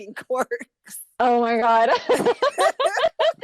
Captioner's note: laughter